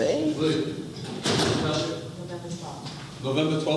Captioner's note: door closing; people mumbling